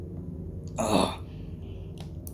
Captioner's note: sounds of utter disgust